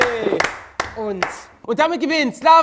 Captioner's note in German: Applaus